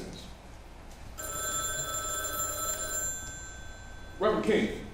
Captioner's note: phone ringing